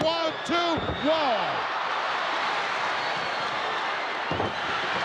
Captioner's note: crowd cheering